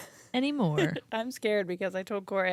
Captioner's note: chuckles